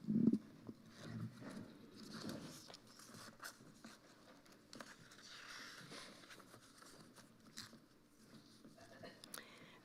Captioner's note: microphone creaking; papers rustling